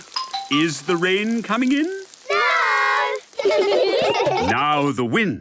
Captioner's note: laughter